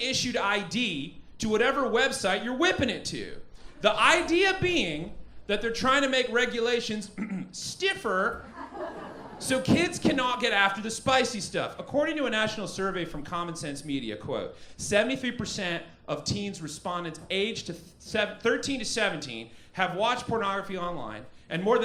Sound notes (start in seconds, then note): 7.1 ahem